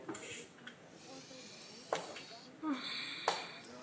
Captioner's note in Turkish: İç çekme